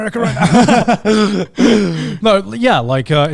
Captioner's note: laughing